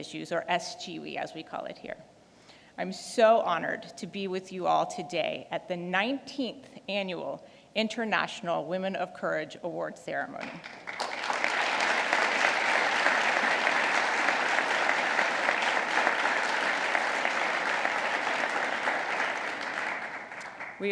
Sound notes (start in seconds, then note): 14.1 applause